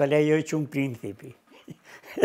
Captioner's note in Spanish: Ríe